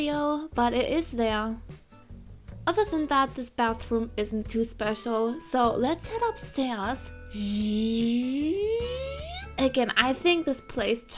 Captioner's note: going up noises